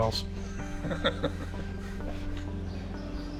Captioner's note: laughs